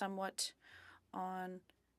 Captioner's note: speaking French